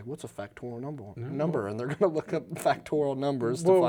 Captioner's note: laughs